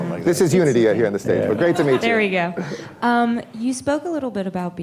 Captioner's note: laughter